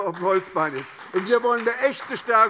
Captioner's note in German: Beifall bei der SPD